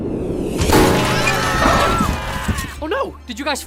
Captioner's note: everyone screams